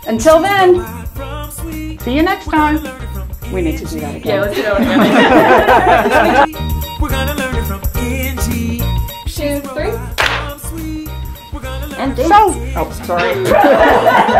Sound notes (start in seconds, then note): 4.5 laughter; 10.1 clap; 13.0 laugh